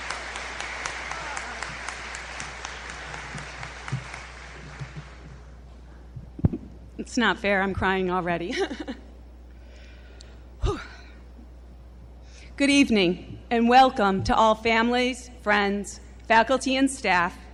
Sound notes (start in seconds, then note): 0.0 applause; 10.6 laughs, sighs